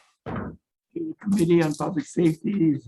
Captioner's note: gavel knocks